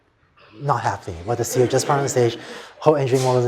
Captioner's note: laughter